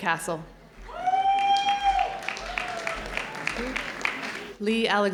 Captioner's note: audience cheering